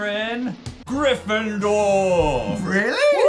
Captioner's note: Legend of Zelda treasure chest sound